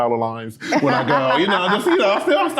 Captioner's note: group laughing